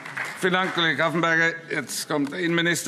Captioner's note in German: Beifall SPD